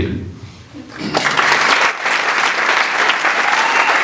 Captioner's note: sustained Applause